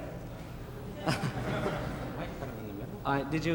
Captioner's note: audience laughing